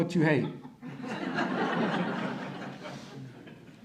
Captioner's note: audience laughter